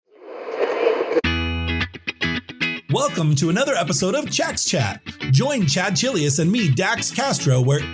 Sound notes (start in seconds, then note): 0.0 radio static crackles; 1.1 bright upbeat music